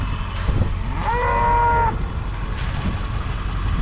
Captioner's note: mooing